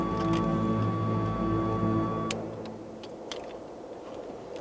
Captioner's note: car beeping; tense music; wind howling